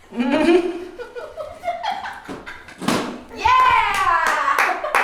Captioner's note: laughing